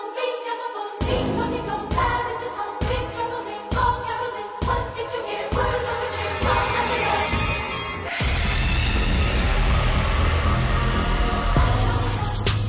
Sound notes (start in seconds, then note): 8.1 monster screams